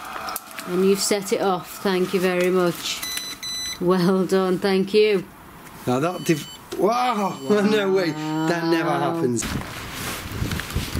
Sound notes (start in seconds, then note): 2.8 REM pod beeps; 6.0 REM pod beeps steadily